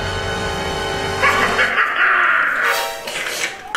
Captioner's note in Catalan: Riure malèfic malrollero